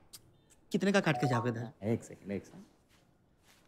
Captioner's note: Phone chimes